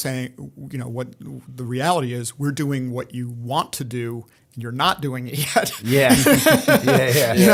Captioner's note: laughter